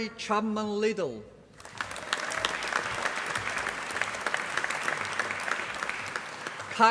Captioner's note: applause